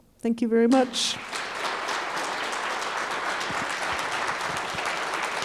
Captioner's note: audience applauding